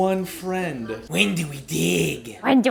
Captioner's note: imitating Mole